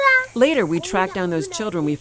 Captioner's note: little cry